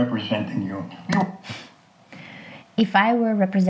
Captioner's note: space bar clicks